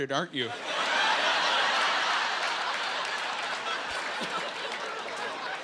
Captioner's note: laughing